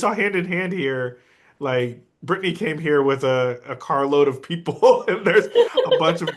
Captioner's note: laughs